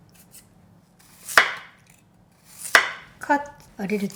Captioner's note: knife chopping on wood